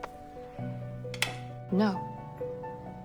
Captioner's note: Serena's lighter clicks shut